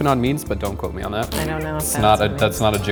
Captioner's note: spitting